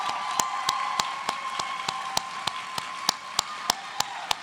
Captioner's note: cheers and applause